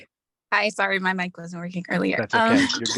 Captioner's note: laughs